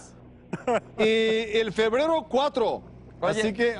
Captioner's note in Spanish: risas